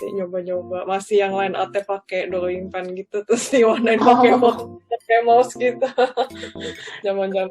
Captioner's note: laughs